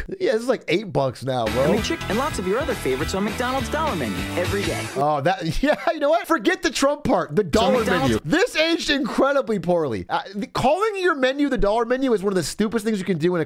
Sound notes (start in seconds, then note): 7.6 laughs